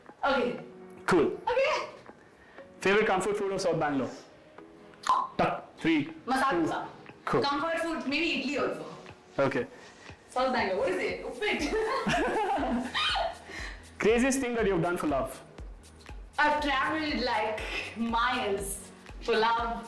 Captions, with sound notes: Okay, cool. Favorite comfort food of south Bangalore? Three, two ... Masala Dosa! Comfort food , mini idly also Okay south Banaglore ,what is it, Uppit ? *laughs* Craziest thing that you've done for love. I've traveled like miles for love.